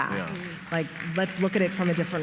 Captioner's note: applause